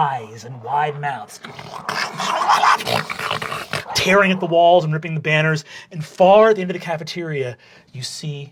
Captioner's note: snarling